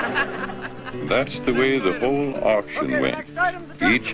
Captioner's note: crowd laughs; voiceover